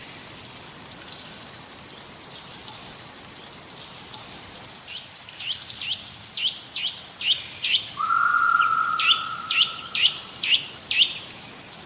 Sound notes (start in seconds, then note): 4.9 more bird calls; 7.9 bird call..?; 9.8 more bird calls